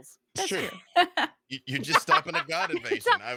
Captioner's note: laughs